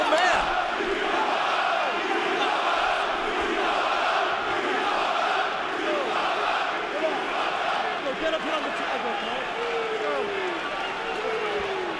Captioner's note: fans chanting